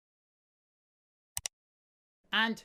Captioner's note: click sound